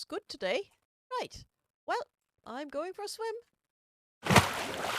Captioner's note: splash